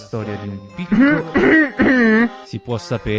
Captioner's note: coff coff coff